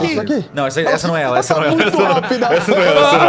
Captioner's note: laughs